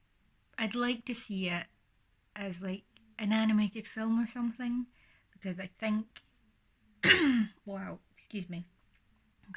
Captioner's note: coughs